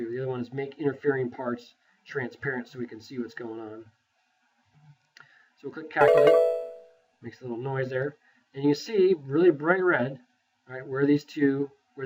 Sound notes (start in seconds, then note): 6.0 computer chimes